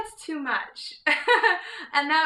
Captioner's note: laughing